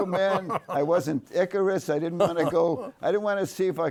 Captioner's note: laughs